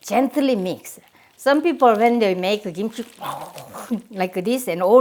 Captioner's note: aggressive growl